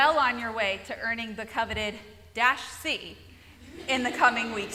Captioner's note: laughter